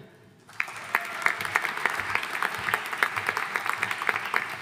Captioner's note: audience applauding